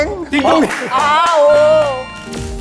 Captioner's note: ding-ding